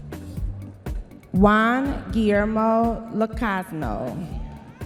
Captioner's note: audience members cheering